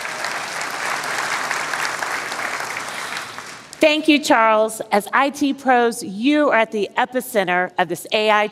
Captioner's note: applause